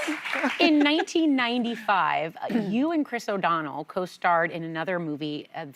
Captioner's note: applause